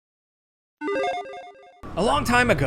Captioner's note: logo beeps